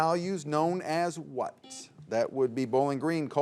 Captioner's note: buzzer beeps